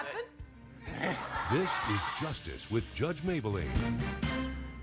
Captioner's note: audience laughs